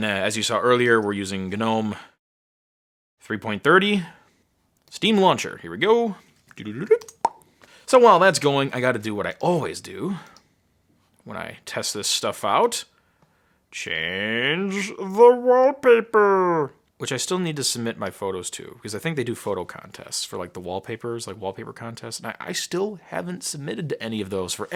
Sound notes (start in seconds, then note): 6.8 popping